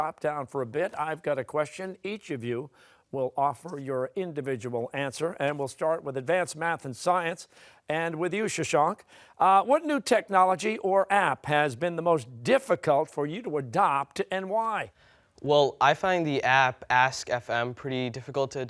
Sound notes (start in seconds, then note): none